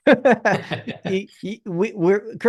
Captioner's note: laughter